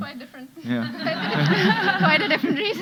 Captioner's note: audience laughing